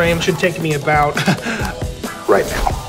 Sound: chuckle

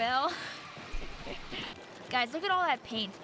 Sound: laughing

